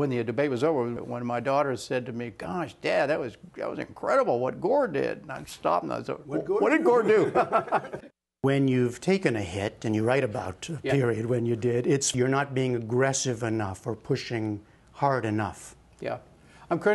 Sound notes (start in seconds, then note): 6.9 laughter